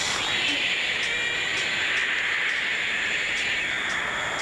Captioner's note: animal Screeching